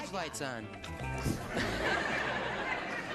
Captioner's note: audience laughing